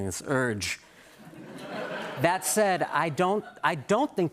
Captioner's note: laughter